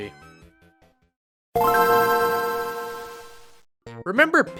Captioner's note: GBA startup noise